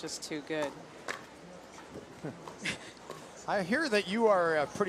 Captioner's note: laughs